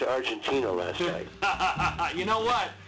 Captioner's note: laughs